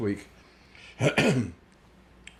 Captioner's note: clears throat